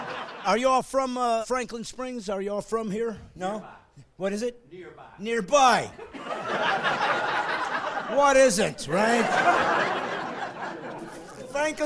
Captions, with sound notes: of the tape and you might want to make a phone call. (laughing) Are you all from Franklin Springs? Are you all from here? No? What is it? - [Voiceover] Nearby. - Nearby. (laughing)